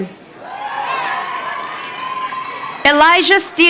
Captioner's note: crowd cheering